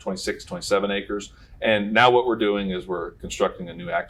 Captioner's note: none